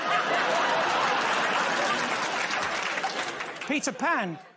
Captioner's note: laughter; applause